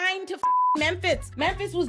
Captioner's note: beep